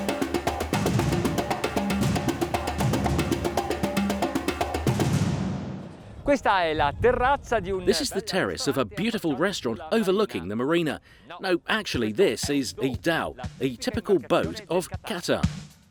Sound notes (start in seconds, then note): 6.5 speaks in foreign language; 15.6 upbeat funky music